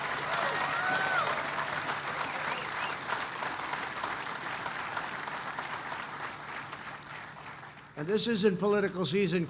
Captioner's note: applause